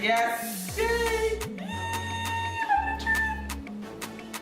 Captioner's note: squealing